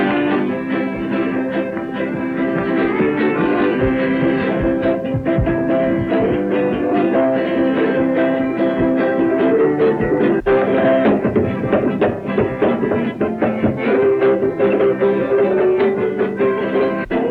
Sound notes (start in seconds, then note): 11.0 fingers thump rhythmically